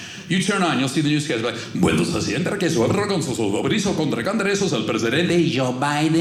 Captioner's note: speaking Spanish